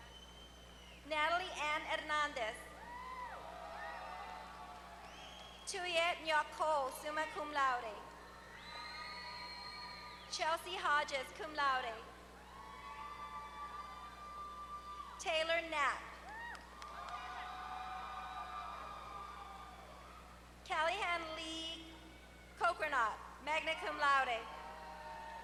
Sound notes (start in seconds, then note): 3.6 applause; 13.4 applause; 16.2 applause